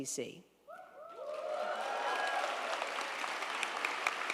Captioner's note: crowd applauding